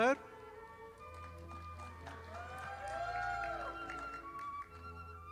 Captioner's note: audience applauding